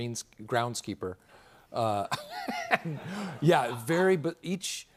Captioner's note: laughter